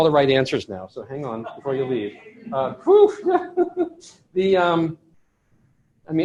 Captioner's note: laughter